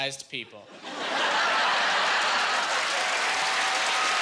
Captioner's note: cheering